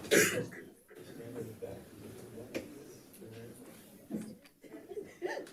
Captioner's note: light chatter